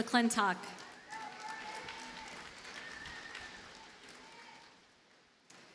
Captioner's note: audience cheers and applauds